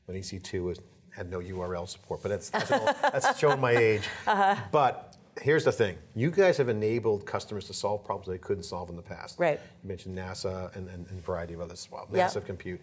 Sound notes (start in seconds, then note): 2.5 laughs